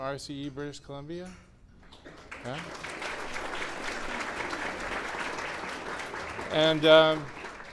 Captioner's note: clapping